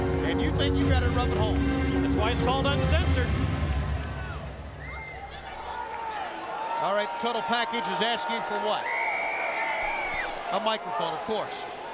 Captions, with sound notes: And you think you've got it rough at home? That's why it's called Uncensored. All right, the Total Package is asking for what? (crowd jeering) (fan screams) A microphone, of course.